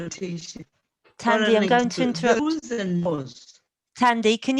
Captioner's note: distorted audio